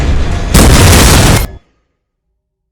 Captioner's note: explosion